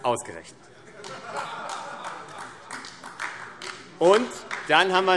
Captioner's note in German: Lachen und Beifall AfD